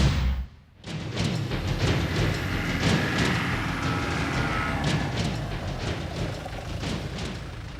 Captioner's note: exciting music; vehicle approaching